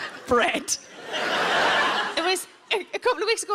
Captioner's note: audience laughs